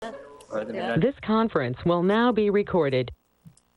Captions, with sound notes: (group chattering) This conference will now be recorded.